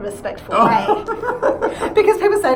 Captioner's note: laughs